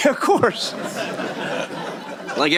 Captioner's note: laughter